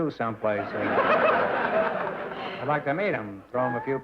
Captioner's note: laughter